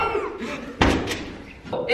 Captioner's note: chuckle